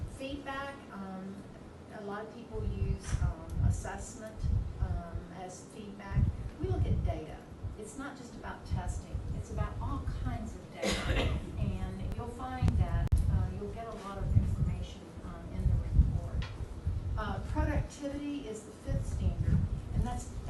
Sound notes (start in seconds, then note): 10.8 coughing drowns out speaker